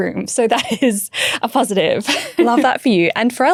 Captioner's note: chuckling